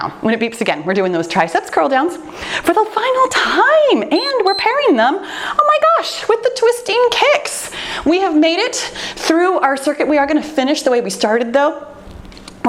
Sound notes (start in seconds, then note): 4.1 timer beeps